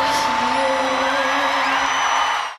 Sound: crowd cheering

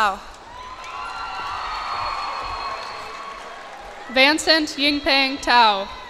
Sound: cheers and applause

